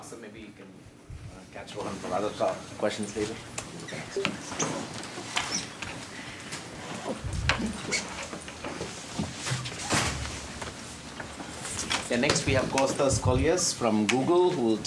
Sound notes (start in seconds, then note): 12.1 indistinct conversation